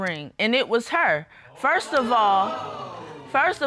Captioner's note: audience exclaims